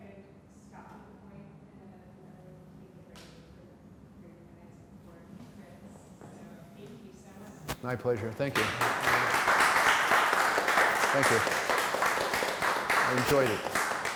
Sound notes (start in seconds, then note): 7.8 applause